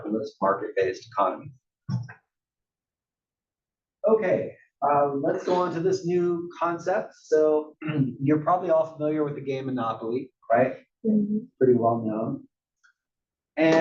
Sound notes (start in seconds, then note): 7.8 cough